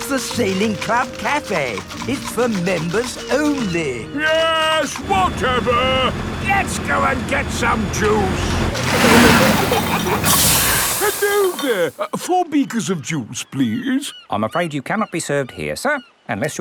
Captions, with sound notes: That's the Sailing Club Cafe! It's for members only. Yes, whatever, let's go and get some juice! (PEPPA AND GEORGE GIGGLING) (AIR HISSES) Hello there! Four beakers of juice, please. I'm afraid you cannot be served here sir,